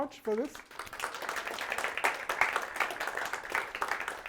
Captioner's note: applause